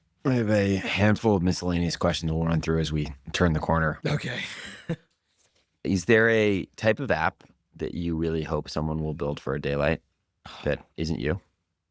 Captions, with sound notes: I have a handful of miscellaneous questions that we'll run through as we turn the corner. Okay. [laughs] Is there a type of app that you really hope someone will build for Daylight that isn't you?